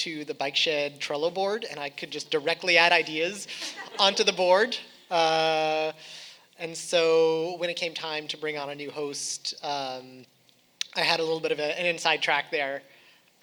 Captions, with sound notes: to "The Bike Shed" Trello board, and I could just directly add ideas onto the board. (audience laughing) And so, when it came time to bring on a new host, I had a little bit of an inside track there,